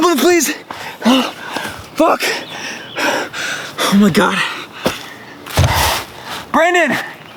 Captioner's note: heavy breathing